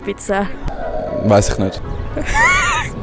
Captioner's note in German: Kind im Hintergrund: Uuuuuuuh